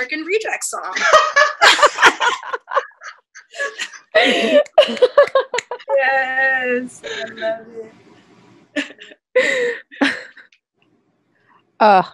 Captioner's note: laughter